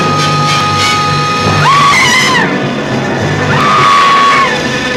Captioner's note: Mary screams; thrilling music